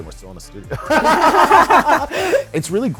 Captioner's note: both laugh